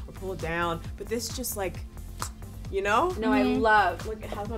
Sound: clicks tongue

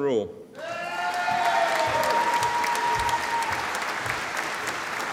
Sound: audience applauding

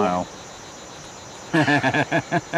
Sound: David laughs

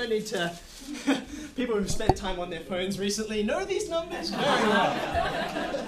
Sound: laughs

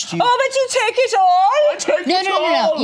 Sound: imitates German accent

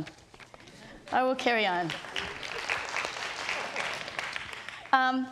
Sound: audience applauds

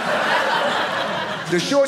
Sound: audience laughing

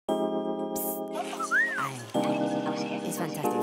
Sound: whistling

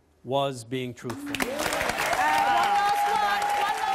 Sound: audience applause

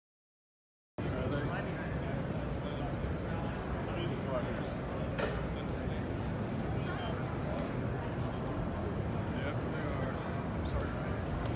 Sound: crowd noise

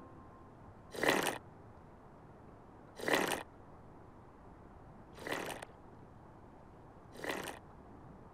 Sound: slurping

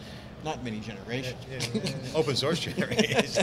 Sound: laughs

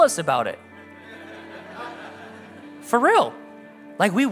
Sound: congregation laugh

